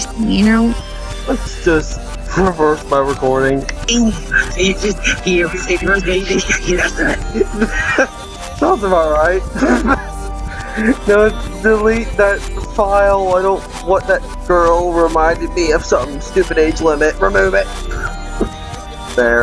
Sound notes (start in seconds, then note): 5.6 reverse speech; 7.6 chuckle